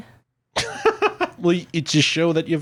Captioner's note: laughs